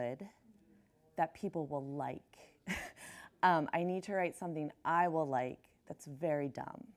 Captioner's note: chuckles